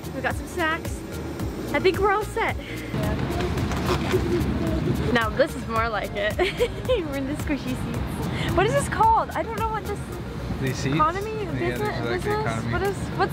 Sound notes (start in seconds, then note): 6.6 laughs